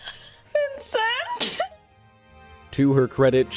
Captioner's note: laughing